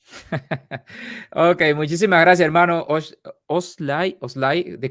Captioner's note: laughs